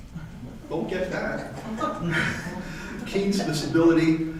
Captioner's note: light chuckle